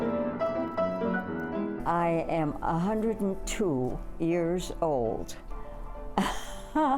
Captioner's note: upbeat piano music; laughing